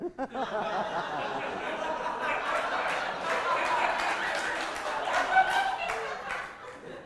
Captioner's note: audience laughter